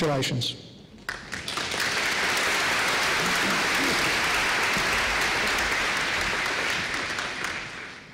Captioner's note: applause